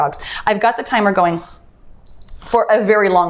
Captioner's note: timer beeps